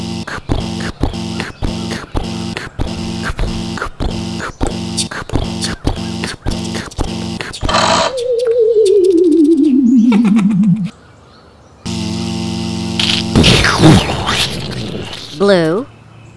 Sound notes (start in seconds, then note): 0.2 pounding footsteps; 7.5 click; 7.5 powering down; 11.8 buzz; 13.0 crunch; 13.3 explosion